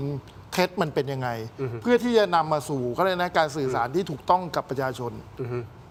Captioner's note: clears throat